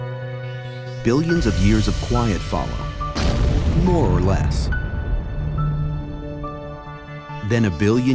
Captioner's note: impact